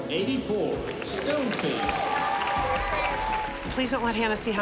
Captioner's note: applause